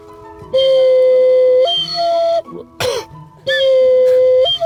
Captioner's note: blows whistle